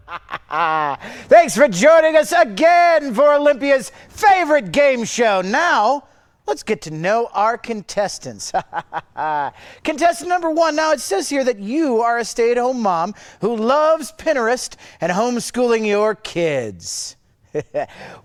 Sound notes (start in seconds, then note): 0.0 laughs; 8.5 laughs; 17.5 chuckles